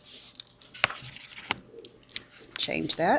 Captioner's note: mouse scribbles